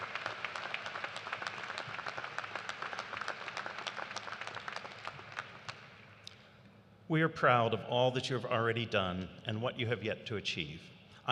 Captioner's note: applause